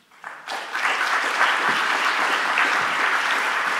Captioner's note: applause